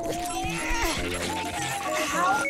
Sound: grunting

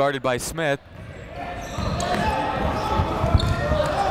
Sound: chatter

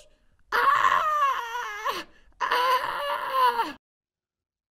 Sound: screaming

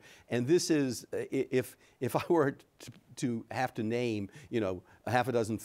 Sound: chuckles

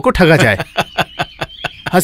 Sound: laughs

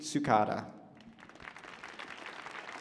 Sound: applause

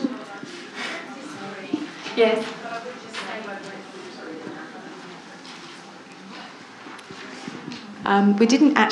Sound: audience chatter

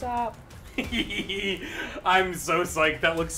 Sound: laughs

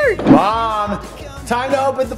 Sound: air whooshing

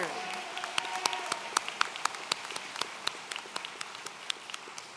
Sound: audience cheering

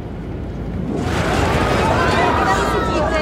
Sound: electronic warbling; airplane whooshing; passengers crying out; flight attendant speaking foreign language

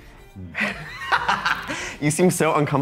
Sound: laughs

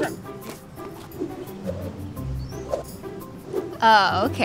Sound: yo-yo sounds

